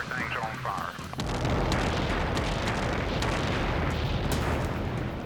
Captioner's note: site exploding